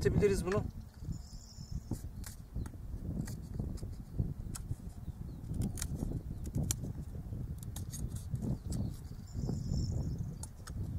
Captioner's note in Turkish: Kesme sesi